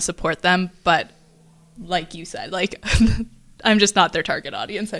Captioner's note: laughs